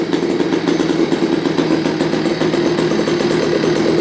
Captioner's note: engine revving